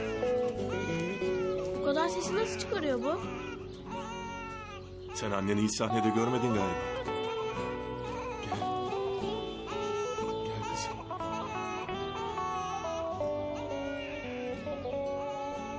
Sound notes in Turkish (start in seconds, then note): 3.0 bebek ağlama sesi̇; 6.7 bebek ağlama sesi̇